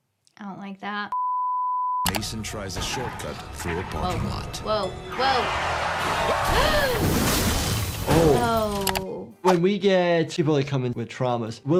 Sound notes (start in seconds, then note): 5.0 tires screeching; 6.5 gasps; 7.1 cars crashing